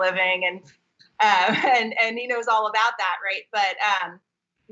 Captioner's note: laughing